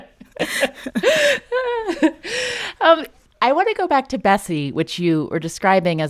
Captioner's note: laughter